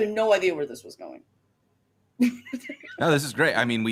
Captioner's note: laughs